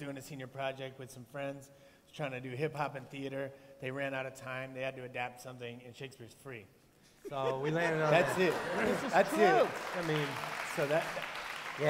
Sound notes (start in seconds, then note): 7.9 laughter, applause